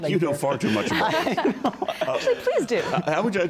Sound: laughs

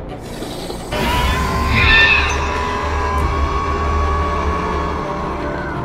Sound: Hermes screech into a low deep growl; Scorpius Rex roaring

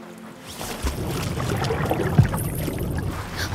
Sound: water dripping

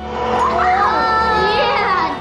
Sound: melodious music; sewing machine whirring

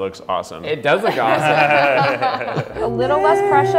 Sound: laughter

